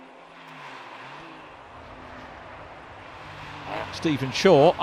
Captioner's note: car engines revving